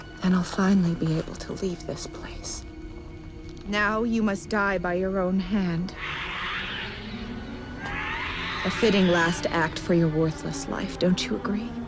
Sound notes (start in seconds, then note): 5.9 creatures screeching